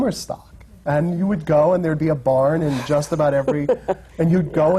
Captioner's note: laughter